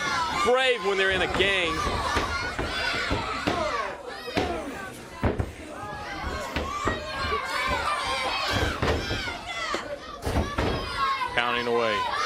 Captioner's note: crowd chatter